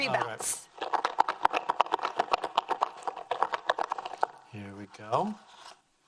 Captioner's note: foil balls rattling